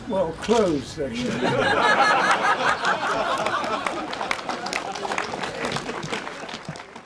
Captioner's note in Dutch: veel gelach; publiek klapt